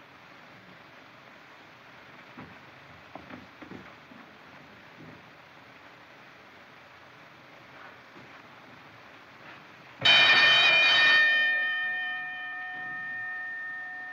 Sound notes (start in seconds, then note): 10.0 bell Rings